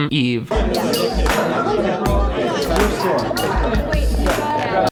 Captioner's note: people chattering